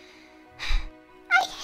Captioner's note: sigh